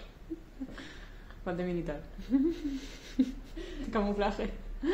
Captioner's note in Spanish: respirando hondo